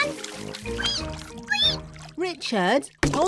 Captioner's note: squeaks; richard squeaks